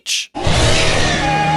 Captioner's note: beast Screaming; ALAX and GANON scream